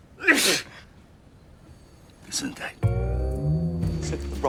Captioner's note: sneezes